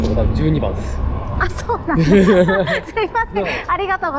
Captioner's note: laughs